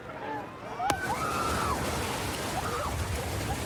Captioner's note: excited screaming